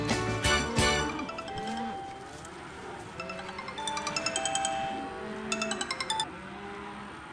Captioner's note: phone ringing